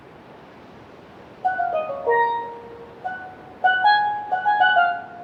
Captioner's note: waves crashing